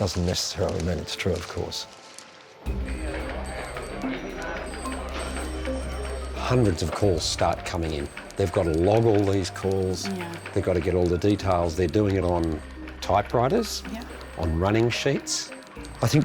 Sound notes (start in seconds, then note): 2.7 people chattering; 2.7 phones ringing